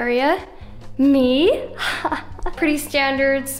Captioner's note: chuckles